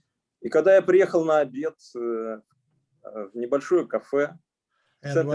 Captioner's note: speaking Russian language